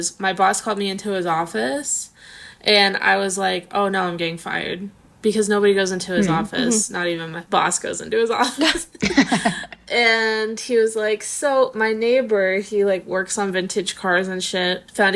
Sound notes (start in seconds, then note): 8.6 laughing